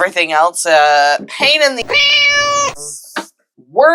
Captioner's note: meow